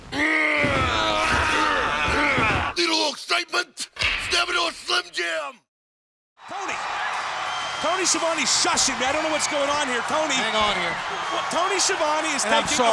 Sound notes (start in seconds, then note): 0.2 Randy grunting; 6.4 crowd cheering